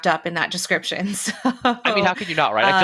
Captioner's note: laughs